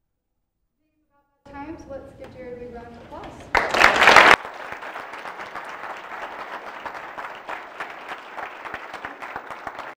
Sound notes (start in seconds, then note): 3.5 applause